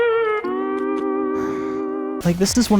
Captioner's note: sigh